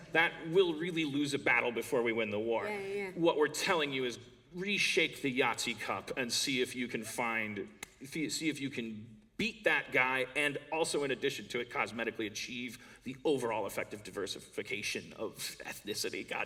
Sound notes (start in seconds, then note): none